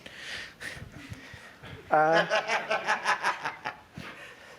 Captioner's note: laughter